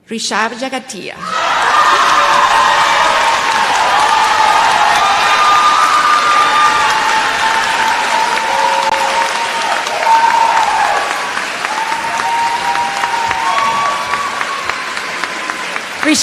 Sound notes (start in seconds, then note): 3.9 cheers and applause